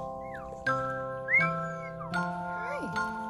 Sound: whistle

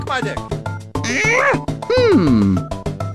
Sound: grunt

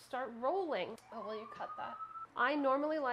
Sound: siren wailing

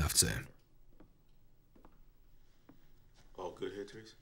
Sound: footsteps approaching

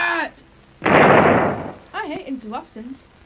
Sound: cannon boom

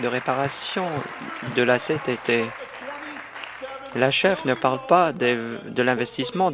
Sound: applause

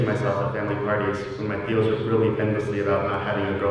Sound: spanish

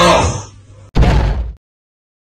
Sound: crash

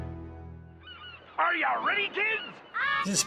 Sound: seagulls squawking

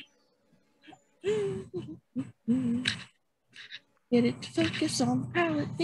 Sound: humming

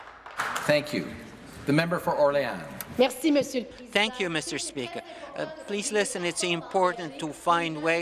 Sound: some Applause

